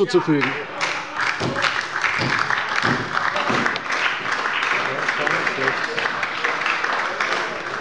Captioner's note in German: Beifall bei der LINKEN und der SPD